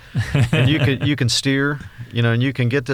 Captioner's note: laughs